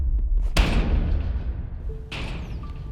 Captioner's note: metal clashing